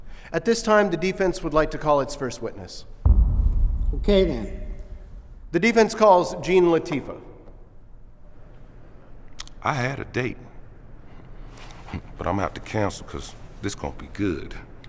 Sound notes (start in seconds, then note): 3.0 dramatic boom